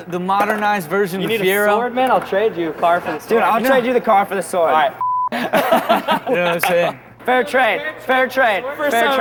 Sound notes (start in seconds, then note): 5.3 laughing